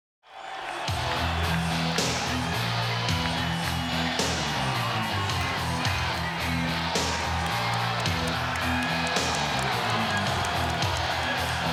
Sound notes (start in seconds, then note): 0.7 crowd cheering; 0.8 heavy rock music